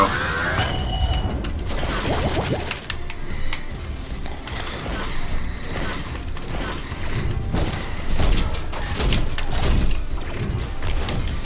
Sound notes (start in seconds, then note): 0.0 bubblegum shooting game effects; 7.3 explosive game effects